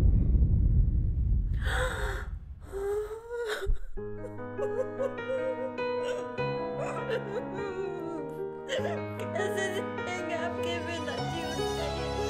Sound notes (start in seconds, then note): 2.4 lady sobs